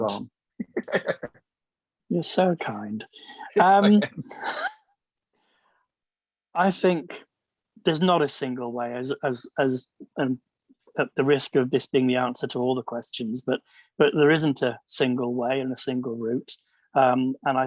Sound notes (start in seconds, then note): 0.6 laughs; 4.0 laughter; 4.9 laughs